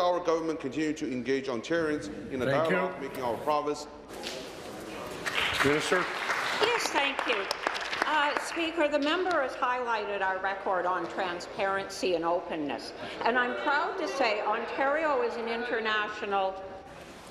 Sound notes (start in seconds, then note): 8.6 applause